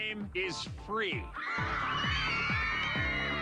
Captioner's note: cheering